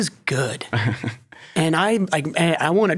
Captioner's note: laughs